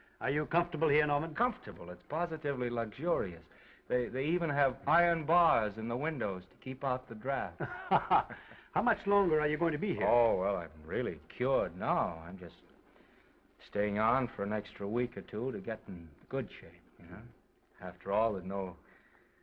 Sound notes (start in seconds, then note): 7.6 Oliver laughs